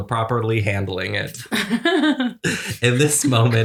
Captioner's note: laughter